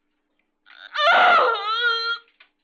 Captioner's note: groaning